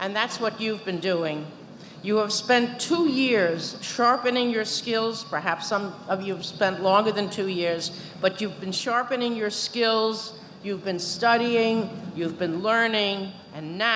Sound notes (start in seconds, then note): none